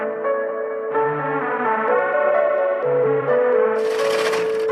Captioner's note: applause